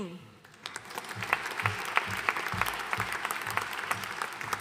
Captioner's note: audience applauding